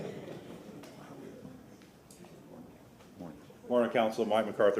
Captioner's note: laughter